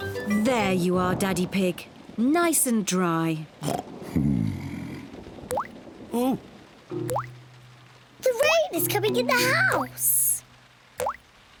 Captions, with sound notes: There you are, Daddy Pig. Nice and dry. (OINKS) Hmm. Oh! The rain is coming in the house!